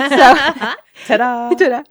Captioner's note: laughing